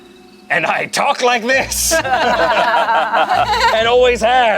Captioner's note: group laughs